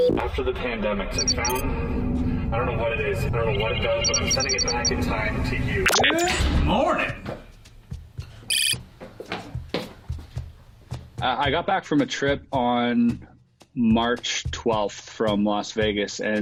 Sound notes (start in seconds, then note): 8.5 computer beeping